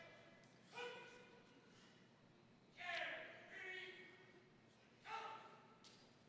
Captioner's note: drill sergeant chants commands